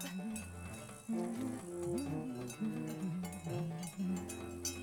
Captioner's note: humming; metal clanking